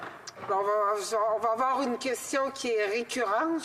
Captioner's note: speaking French